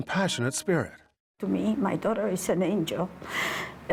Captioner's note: voice breaking